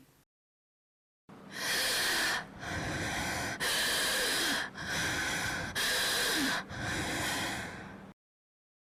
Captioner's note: breathing weakly and slowly, more inhalation and less exhalation